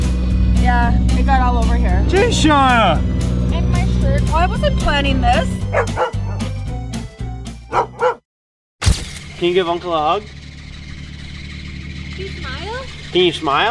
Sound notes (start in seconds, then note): 5.8 dog barking